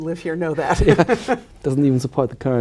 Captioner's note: laughing